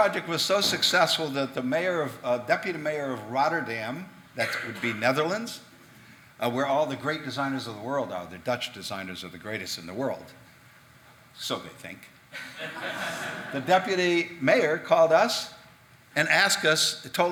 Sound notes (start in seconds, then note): 12.4 audience laughing